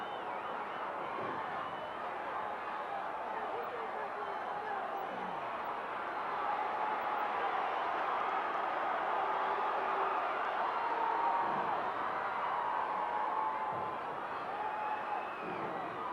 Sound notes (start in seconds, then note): 0.1 audience cheering continues; 11.1 fist thudding; 13.2 kicks thudding